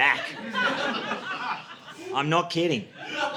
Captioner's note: audience laughing